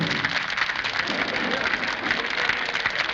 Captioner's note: applause